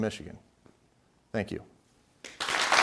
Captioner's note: clapping